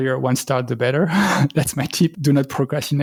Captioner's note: laughter